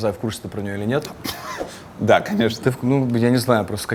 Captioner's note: laughs